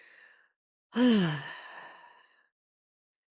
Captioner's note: sigh